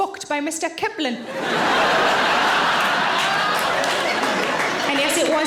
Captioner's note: audience laughing